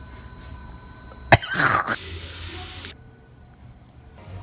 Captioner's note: gagging